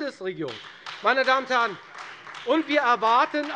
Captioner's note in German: Beifall Freie Demokraten